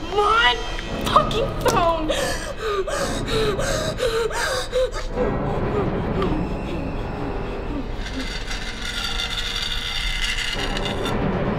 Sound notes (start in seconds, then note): 2.1 hyperventilating; 7.8 knife scraping